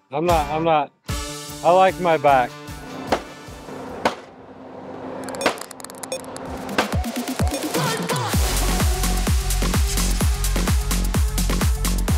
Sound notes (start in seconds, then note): 5.4 machine slaps; 7.4 techno music